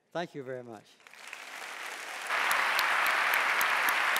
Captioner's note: clapping